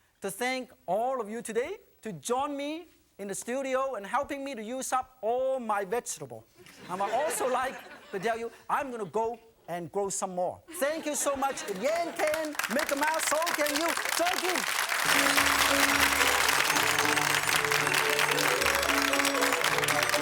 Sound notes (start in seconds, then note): 6.7 audience laughing; 14.1 crowd applauding; 14.8 upbeat music